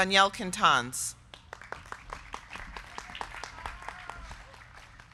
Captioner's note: crowd clapping